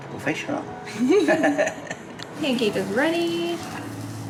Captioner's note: laugh